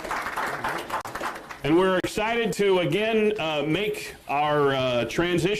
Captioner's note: applause